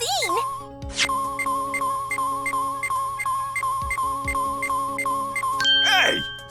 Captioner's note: rapid beeping!